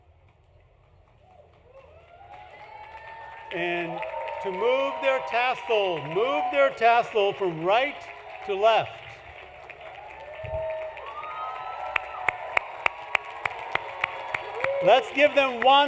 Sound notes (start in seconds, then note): 4.5 applause; 4.5 cheering; 11.9 applause